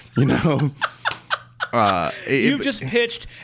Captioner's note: laughing